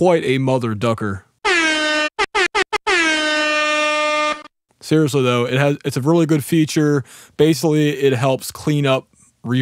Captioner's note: air horn sound effect